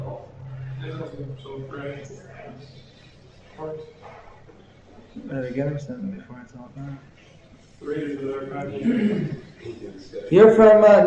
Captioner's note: laughter